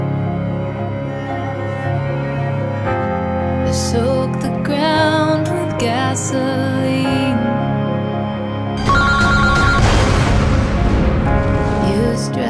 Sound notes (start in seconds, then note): 8.7 cell phone rings; 8.8 loud explosion